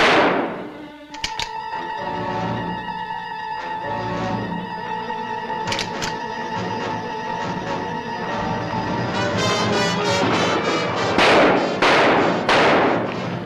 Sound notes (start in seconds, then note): 0.0 gunshot; 1.0 empty gun clicking; 5.6 new ammo clip clicking in; 10.2 gunshots